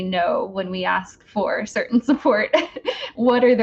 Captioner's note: laughs